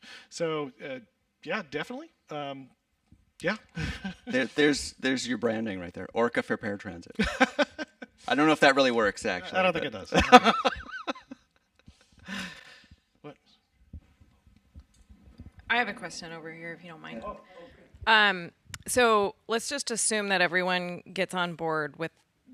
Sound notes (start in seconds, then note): 12.5 laughs